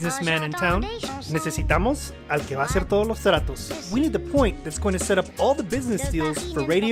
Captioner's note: Spanish